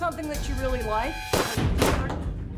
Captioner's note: shots fired